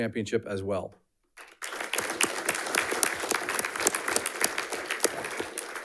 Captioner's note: audience applauding